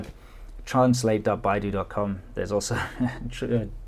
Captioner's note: chuckles